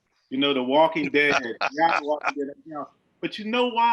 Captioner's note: laughs loudly